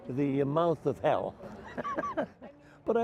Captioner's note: laughs